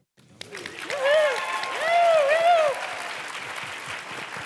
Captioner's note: audience applauds